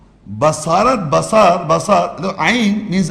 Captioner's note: Arabic